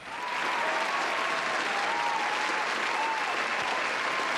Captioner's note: applause